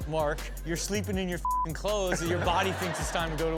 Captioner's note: beep; audience laughs